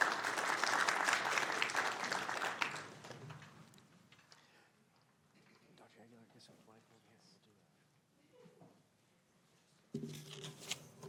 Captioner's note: applause